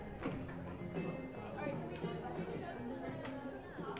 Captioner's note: chatter